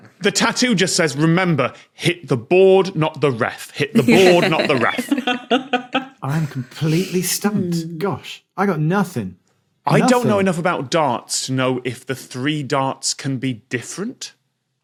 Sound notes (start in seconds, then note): 3.9 giggle